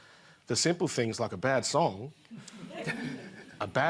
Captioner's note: laughter